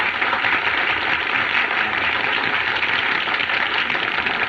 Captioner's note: chattering